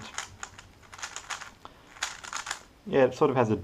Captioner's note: cube noises